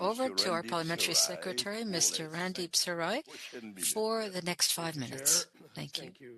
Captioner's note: speaking French